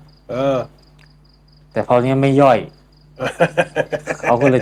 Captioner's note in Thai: เสียงหัวเราะ